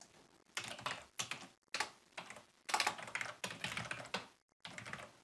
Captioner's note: keyboard clicking